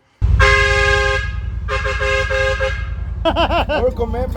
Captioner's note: air horn blaring; laughing